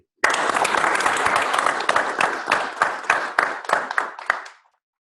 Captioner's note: applause